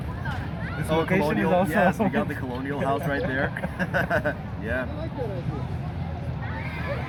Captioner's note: both laugh